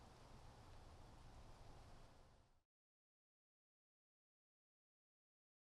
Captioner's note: wind blowing